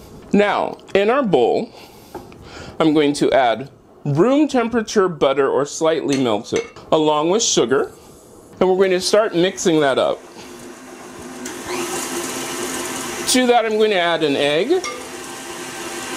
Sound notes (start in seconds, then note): 9.4 mixer noise